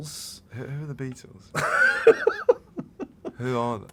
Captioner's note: laughter